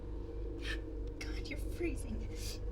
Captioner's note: gasps